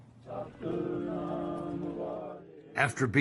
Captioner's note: crowds chanting